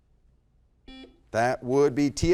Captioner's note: beep